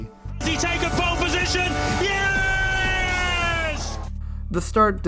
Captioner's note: incoming announcer scream